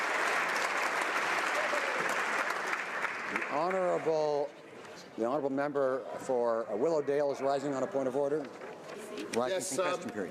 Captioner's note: applause